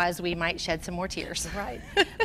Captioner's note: laughs